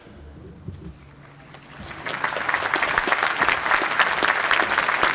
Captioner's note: applause